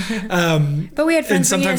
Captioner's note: laughing